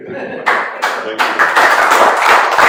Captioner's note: applause